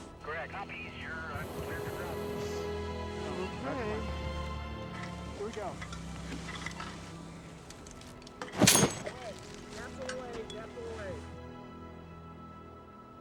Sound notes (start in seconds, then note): 0.3 chatter on radio; 7.6 latch clanks